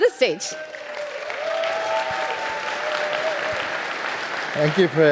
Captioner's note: audience applauding